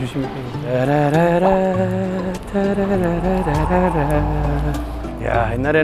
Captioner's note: whoosh